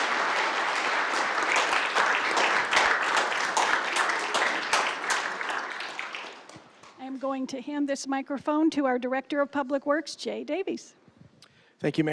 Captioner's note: applause